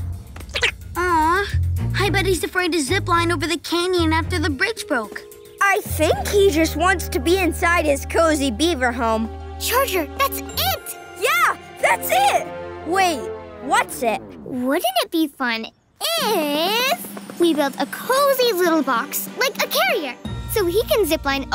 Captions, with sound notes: We need to cross that canyon. [squeaking] Aww! I bet he's afraid to zipline over the canyon after the bridge broke. I think he just wants to be inside his cozy beaver home. Charger, that's it! Yeah, that's it! Wait, what's it? Wouldn't it be fun if... we built a cozy little box